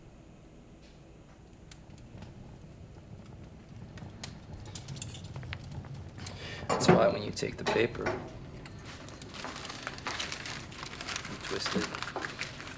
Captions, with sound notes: (fire crackling) - That's why when you take the paper, (paper crinkling) and twist it...